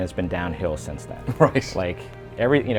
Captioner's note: chuckling